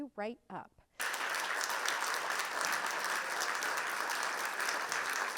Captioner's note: audience applauds